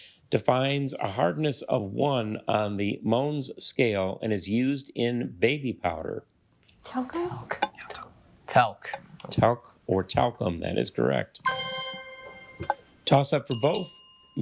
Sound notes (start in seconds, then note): 11.4 triumphant chime; 13.4 bell dings